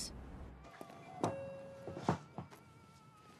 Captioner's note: rings doorbell; man singing opera from inside